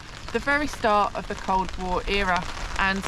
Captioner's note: none